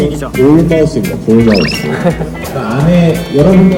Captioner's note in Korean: 낑낑 낑낑